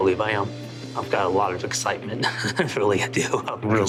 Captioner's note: chuckles